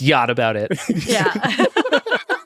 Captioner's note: all laughing